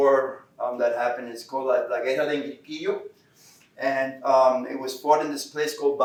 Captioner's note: Spanish